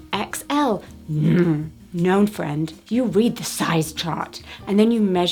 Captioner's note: groans